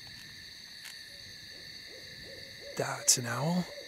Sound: owl hoot

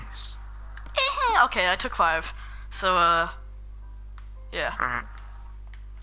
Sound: weird pre-pubescent girl moan of agony

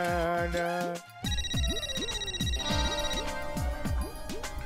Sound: phone ringing

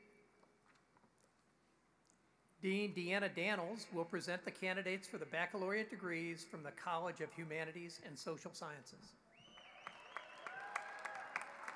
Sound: applause

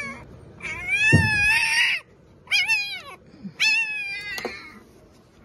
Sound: the puppy being whine

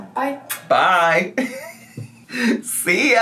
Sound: laughs

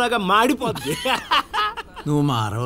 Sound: laughs

